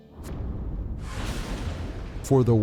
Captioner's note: lighting thundering